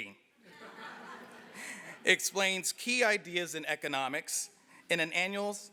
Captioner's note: laugh